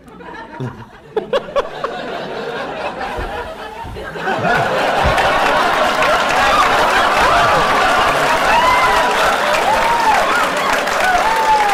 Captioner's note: laughter